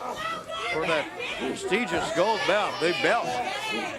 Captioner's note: crowd cheering